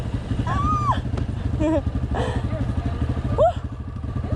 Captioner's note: excited cheering